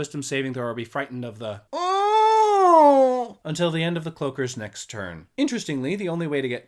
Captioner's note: moan